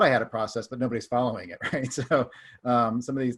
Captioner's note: laughs